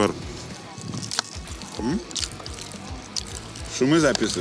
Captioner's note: chews into the mic